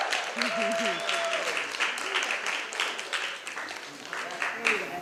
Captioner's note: applause